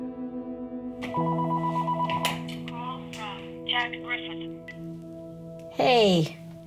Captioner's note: phone ringing